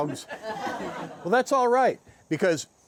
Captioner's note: guests laughing